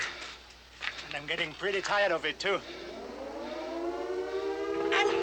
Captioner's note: air Raid Sirens Blaring